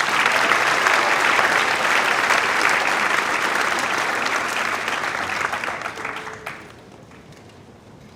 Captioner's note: applause